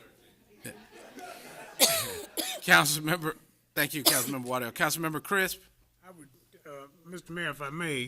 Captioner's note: laughter